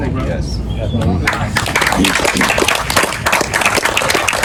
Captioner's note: audience applause